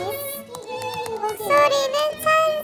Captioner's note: tippity-tap